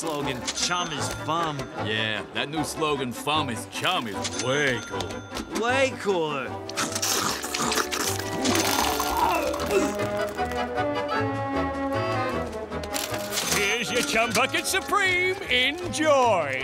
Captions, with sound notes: "Chum is Fum". Yeah, that new slogan "Fum is Chum" is way cooler. Way cooler! [barfing] Here's your Chum Bucket Supreme, enjoy!